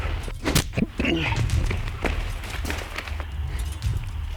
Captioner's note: Jason grunts